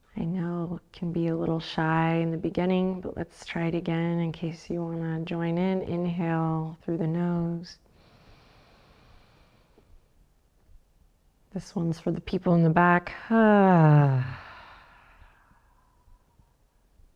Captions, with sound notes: I know it can be a little shy in the beginning but let's try it again in case you want to join in. Inhale through the nose. This one's for the people in the back. (sighs loudly)